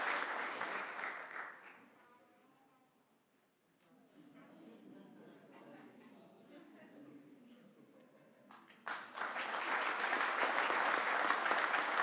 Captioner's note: applause